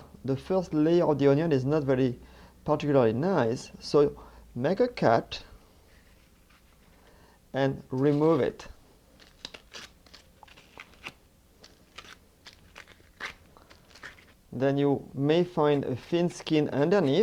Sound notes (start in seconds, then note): 11.6 peeling sounds